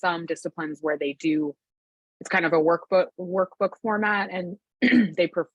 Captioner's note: clears throat